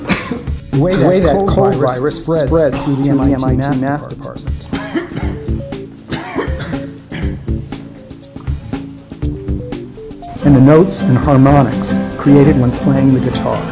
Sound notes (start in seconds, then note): 0.0 coughing; 4.5 coughing